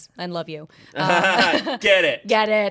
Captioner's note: everyone laughs